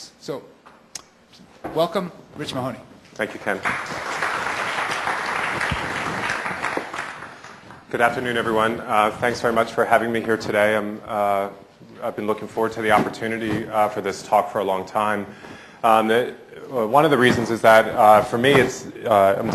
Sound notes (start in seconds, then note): 4.8 applause